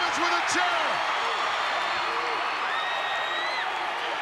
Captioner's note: crowd cheering